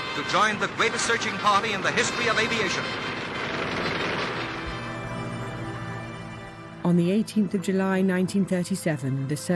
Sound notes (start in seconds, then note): 4.2 plane propeller whirring